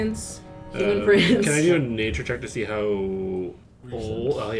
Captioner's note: chuckles